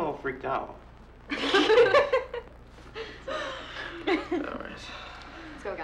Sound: friends laughing

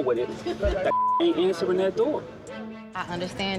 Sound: beep

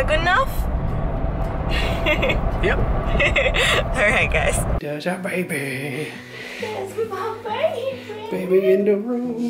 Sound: laughing

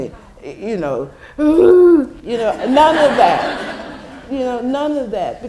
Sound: sob

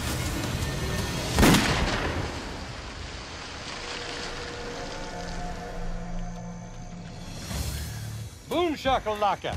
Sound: gun shot

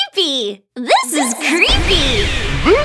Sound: gunshots

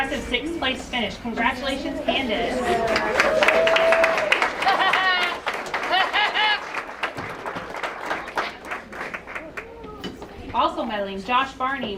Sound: applause

